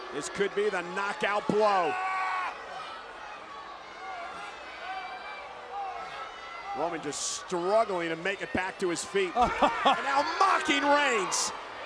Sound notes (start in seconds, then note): 2.1 Corbin yelling; 3.6 crowd shouting; 9.5 Corey laughing